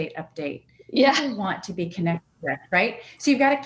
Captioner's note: audio warps